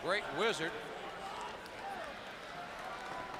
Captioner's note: crowd chatter